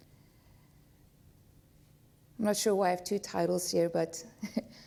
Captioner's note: chuckles